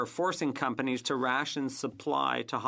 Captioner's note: speaking French